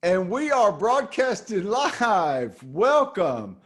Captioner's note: laughs